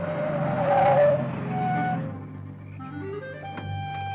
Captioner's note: brakes squealing; dramatic music